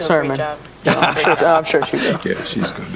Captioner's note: laugh